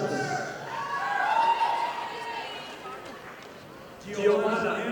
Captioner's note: audience applauding